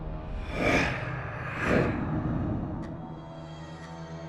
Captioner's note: monster rasping softly; soft tense music